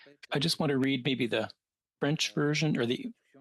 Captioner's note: speaking French